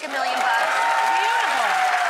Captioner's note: roaring cheering